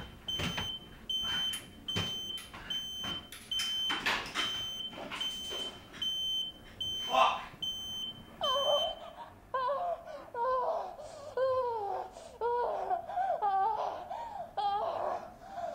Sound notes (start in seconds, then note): 9.5 porn sounds in background